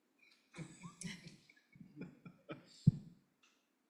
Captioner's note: laughter